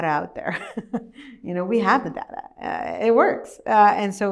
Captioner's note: laughs